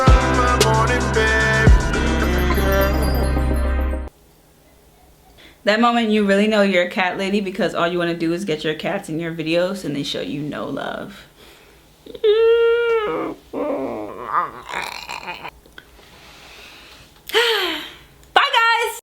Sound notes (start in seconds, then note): 12.2 squeals; 15.2 sighs